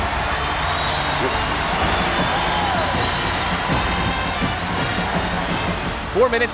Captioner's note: cheers